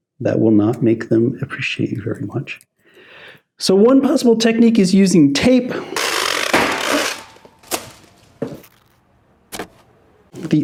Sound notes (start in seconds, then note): 5.8 tape rasping; 5.9 machete slamming; 7.8 tape crinkling